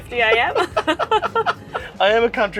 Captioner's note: both laughing